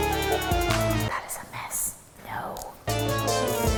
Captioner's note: whispering